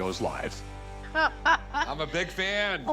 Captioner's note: laughs